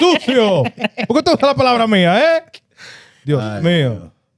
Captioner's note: speaking Spanish